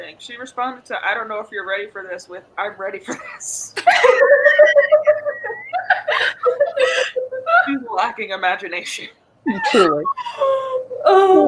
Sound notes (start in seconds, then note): 3.7 laughs; 3.8 all laugh